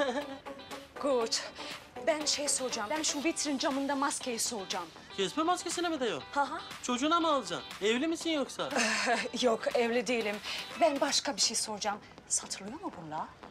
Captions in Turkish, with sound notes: (Almanca konuşma) Ben şeyi soracağım. Ben şu vitrin camında maskeyi soracağım. Casper maskesini mi diyorsun? Ha ha. Çocuğuna mı alacaksın? Evli misin yoksa? A ha yok evli değilim. Ben başka bir şey soracağım. Satılıyor mu bunlar?